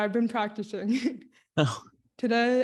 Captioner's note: chuckles